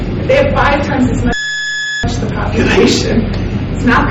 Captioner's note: computer beeps drowns out speaker